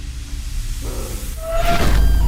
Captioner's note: sigh